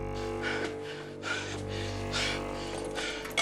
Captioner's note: panting